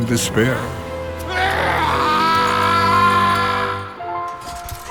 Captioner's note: crying desperately